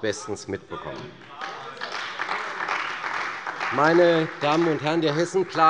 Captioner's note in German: Beifall bei der CDU